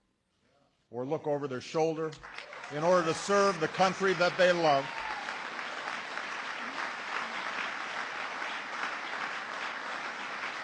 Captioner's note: applause